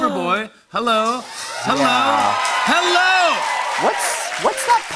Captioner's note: cheers and applause